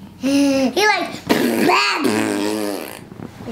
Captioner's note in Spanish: sonidos bobos